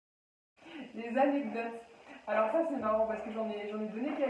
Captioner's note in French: Rire